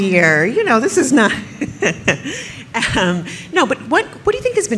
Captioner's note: laughs